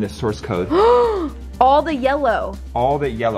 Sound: gasping

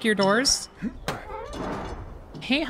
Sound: man Goes “Uegh”

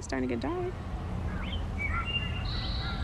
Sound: wood Thrush song

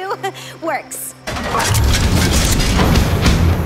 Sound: clatters

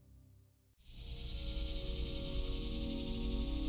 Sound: sound of cicadas

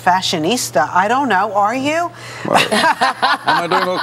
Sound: laughter

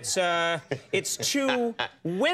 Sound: Bruce laughs

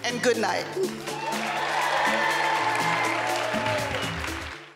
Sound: crowd cheering

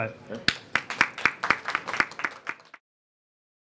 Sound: applause

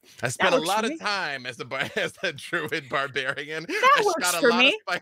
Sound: laughs

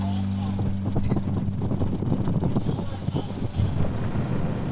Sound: wind rushing

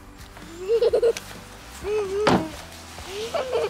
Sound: laughs

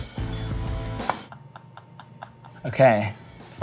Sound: laughs

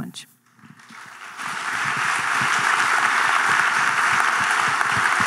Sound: audience clapping

